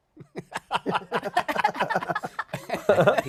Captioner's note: laughter